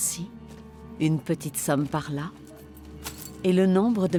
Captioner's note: coins clinking